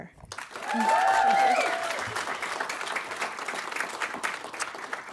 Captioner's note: audience applauding